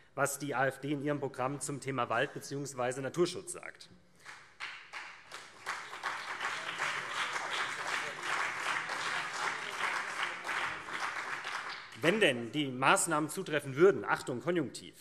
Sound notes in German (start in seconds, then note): 4.2 Beifall SPD und CDU, vereinzelt BÜNDNIS 90/DIE GRÜNEN